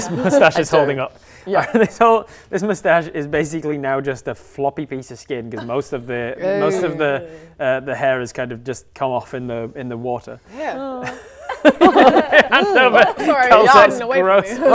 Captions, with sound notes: mustache is holding up Yup This old This mustache is basically now just a floppy piece of skin and most of the hair has just come off in the water Yeah *laughing* Hand over Sorry Calzette's gross - Yuck! - It's getting away from me